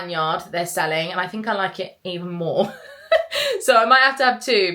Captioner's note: giggles